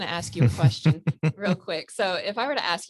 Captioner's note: laughs